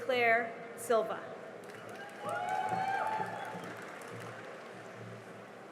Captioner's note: cheering and applause